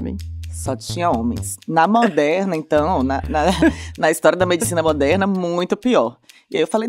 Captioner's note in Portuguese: risos